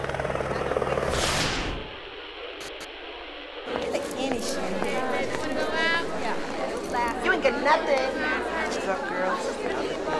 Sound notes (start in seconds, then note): 0.0 static crackles